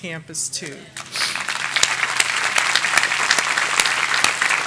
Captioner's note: audience applauding